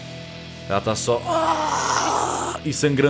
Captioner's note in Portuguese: Grunhidos